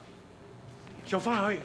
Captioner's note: Fong speaking foreign language